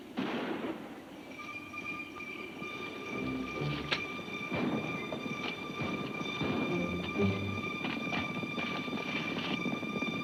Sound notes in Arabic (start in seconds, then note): 0.1 أصوات البنادق; 1.7 موسيقى متوترة